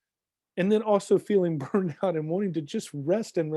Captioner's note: chuckling